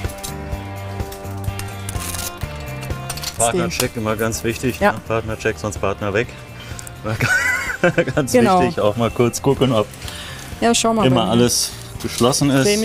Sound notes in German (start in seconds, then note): 0.2 Lockere Musik; 7.0 lacht